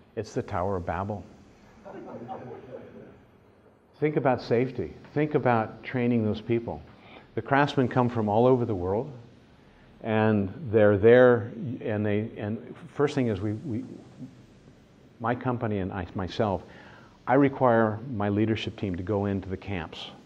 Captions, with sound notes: It's the tower of Babel. [laughter] Think about safety. Think about training those people. The craftsmen come from all over the world and they're there and—the first thing is we, my company and myself, I require my leadership team to go into the camps